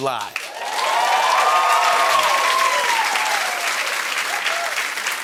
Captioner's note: cheers and applause